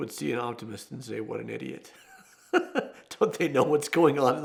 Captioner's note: laughs